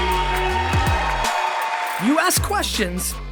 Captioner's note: voiceover; audience cheering